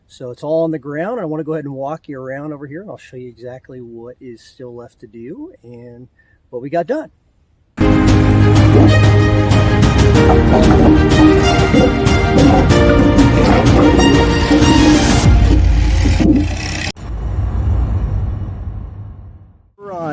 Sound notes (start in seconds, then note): 7.8 triumphant music; 10.4 wood falling